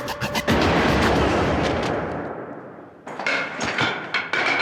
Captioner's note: gunshot ringing; baton falling